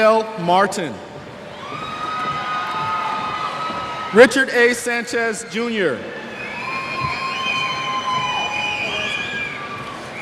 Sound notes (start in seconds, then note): 1.5 cheers